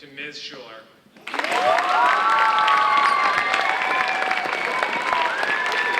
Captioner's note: audience cheering and applauding